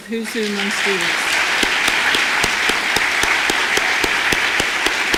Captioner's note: audience applause